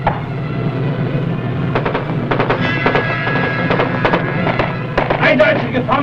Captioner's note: machine gun firing; speaking in foreign language